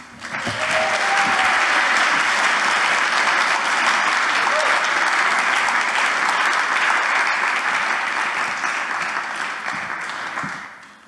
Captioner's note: applause